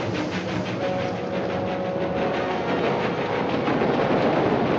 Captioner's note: train rumbling